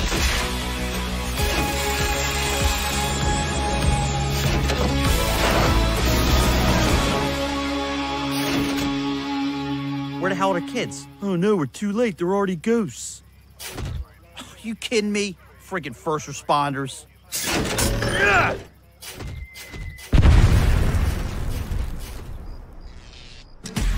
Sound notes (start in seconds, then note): 0.2 dramatic music; 20.1 explosion